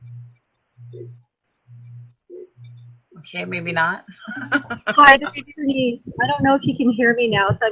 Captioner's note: laughing